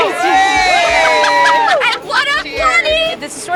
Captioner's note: cheering